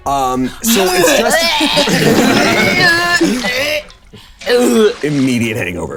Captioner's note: Bug making vomiting sounds; players chuckling